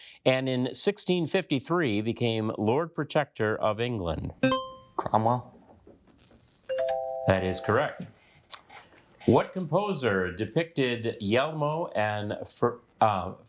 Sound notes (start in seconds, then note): 4.4 buzzer beeps; 6.7 bell dings